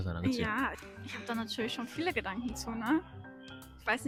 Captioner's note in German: laughs